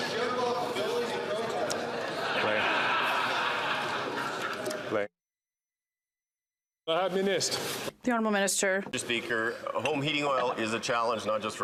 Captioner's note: chatter